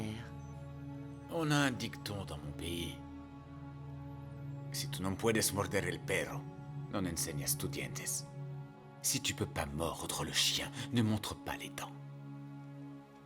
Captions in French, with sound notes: - Dans notre pays, nous avons un dicton. (gangster parlant une langue étrangère) Si vous ne pouvez pas mordre le chien, ne montrez pas vos dents.